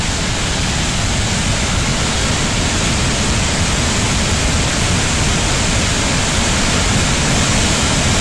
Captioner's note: roaring sound of huge flood